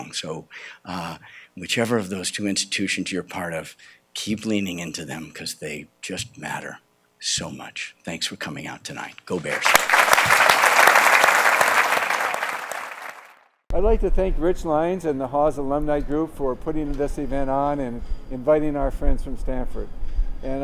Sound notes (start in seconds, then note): 9.3 applause